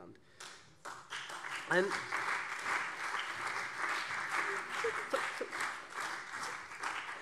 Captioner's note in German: Beifall SPD und CDU